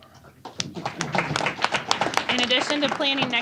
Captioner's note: applause